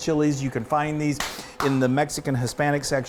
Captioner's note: clapping